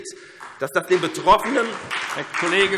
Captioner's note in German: Beifall SPD